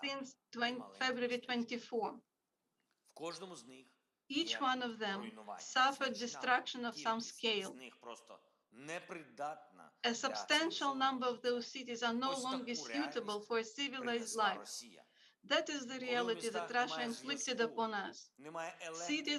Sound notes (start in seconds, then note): 3.3 Volodymyr speaking foreign language; 8.2 Volodymyr speaking foreign language